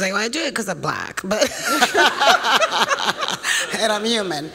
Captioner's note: laughter